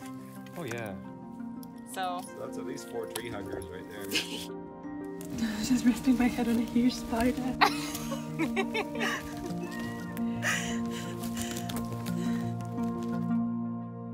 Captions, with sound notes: - Oh yeah. - So that's at least four tree huggers right there. - (laughs) - I was just resting my head on a huge spider! - (laughter)